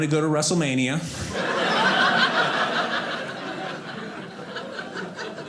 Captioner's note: audience laughing